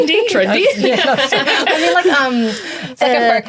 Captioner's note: everyone laughs